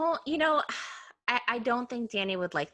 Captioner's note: sighing